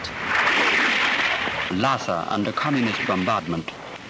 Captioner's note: voiceover